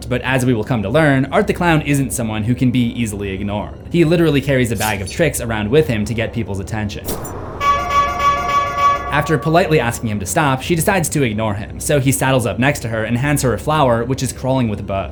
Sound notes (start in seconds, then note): 7.5 Art honking his horn